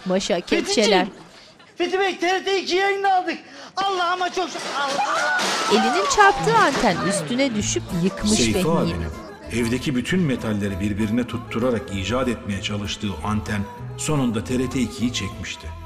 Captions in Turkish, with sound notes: Fethiciğim! Fethi Bey TRT 2 yayınını aldık. Allah'ıma çok şükür. (Bağırma sesi) (Ahmet dış ses) Seyfi abinin evdeki bütün metalleri... ...birbirine tutturarak icat etmeye çalıştığı anten... ...sonunda TRT 2'yi çekmişti.